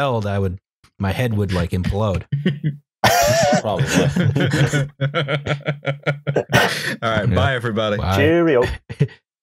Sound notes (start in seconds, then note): 3.0 laughter; 3.0 laughs